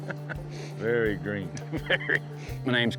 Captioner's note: chuckles